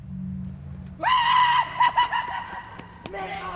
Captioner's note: screams of Joy